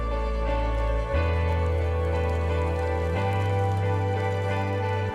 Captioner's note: fire crackling